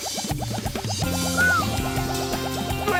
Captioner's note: whistles